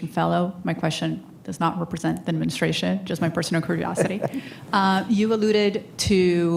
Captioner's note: laughter